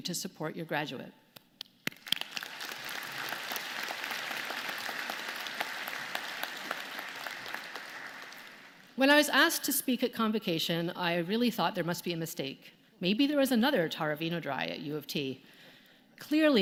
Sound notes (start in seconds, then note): 6.2 applause